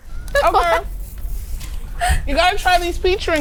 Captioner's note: laughing